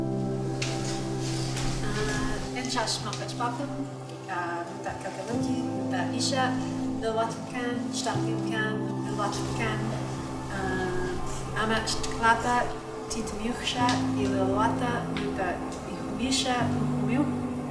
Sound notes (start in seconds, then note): 2.3 Speaking in Ucwalmícwts. The language of the Lil'wat Nation